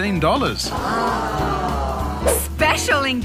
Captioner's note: collective sighing